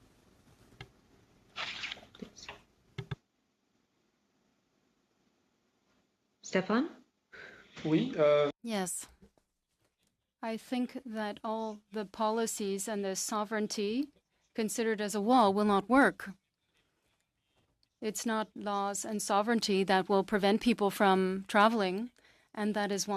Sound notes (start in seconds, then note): 12.7 speaking French